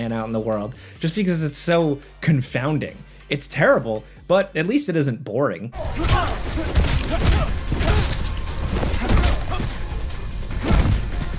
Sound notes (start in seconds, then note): 5.8 characters grunting